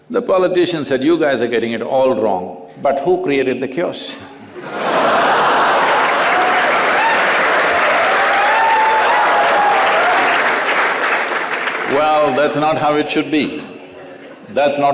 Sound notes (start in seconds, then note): 6.7 cheers/Laughter/Applause